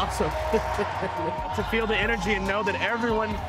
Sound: audience cheering

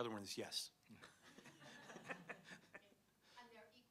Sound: laughter

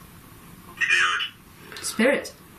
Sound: voice from Ovilus

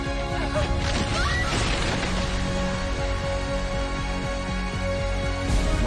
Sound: screaming; thunder

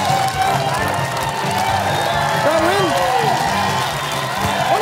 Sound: cheering/applause

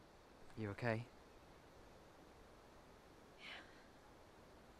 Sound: none

